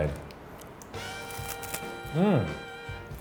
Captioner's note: chewing